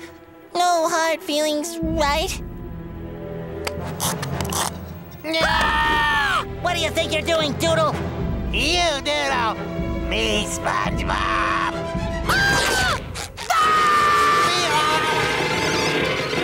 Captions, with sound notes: No hard feelings, right? [screaming] What do you think you're doing, doodle?! You Doodle! Me SpongeBob! [screaming]